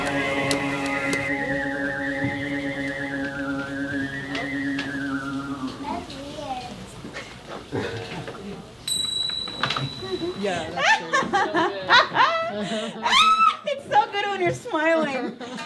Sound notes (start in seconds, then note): 8.8 bell rings; 10.8 laughing